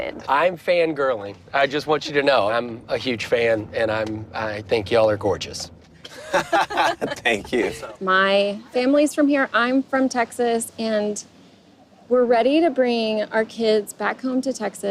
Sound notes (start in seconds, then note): 6.0 laughter